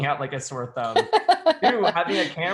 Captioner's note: laughing